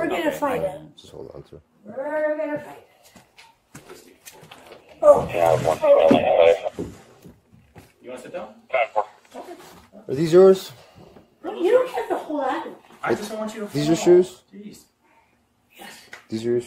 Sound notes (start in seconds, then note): 5.4 radio chatter